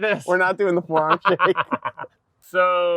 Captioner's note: both laughing